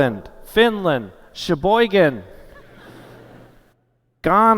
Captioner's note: laughter